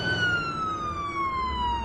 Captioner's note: siren wailing